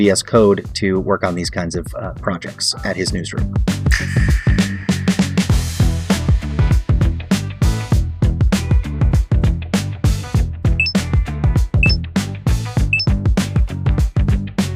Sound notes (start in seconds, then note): 5.4 beeping; 5.4 upbeat music